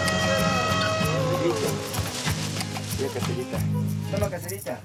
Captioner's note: Spanish spoken audio